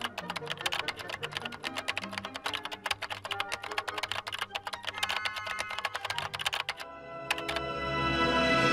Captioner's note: keyboard clicking